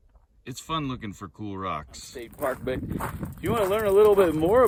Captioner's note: gravel crunching underfoot, wind noise